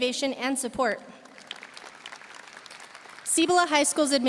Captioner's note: audience applauding